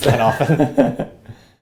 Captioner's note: laugh